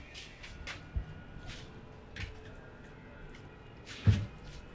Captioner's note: footsteps